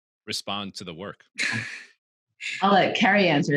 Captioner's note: chuckles